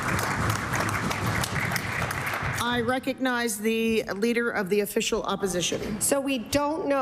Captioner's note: applause